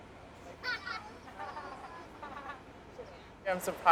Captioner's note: risas